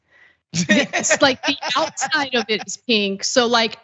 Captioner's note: laugh